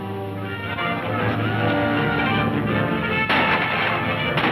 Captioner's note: men shouting; guns firing